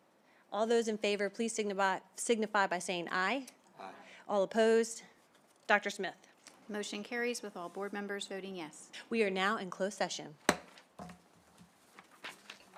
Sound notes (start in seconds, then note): 10.3 gavel hitting dais; 11.6 paper turning